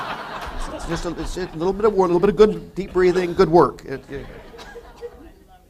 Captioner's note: laughter